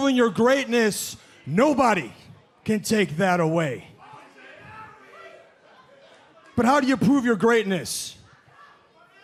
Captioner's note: crowd chatter